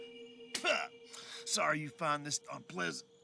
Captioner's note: spits